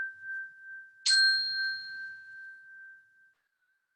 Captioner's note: chime